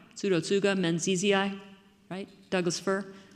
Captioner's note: speaking foreign language